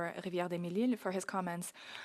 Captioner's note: speaking french